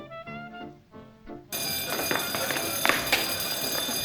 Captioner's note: alarm ringing